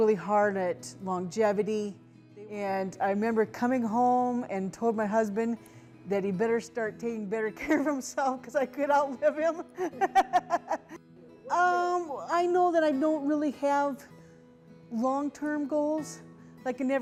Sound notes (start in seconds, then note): 9.7 laughing